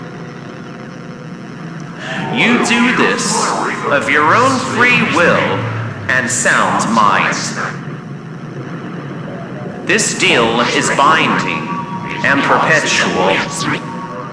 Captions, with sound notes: (distorted elk bugle fx)You do this of your own free will and sound mind. This deal is binding and perpetual.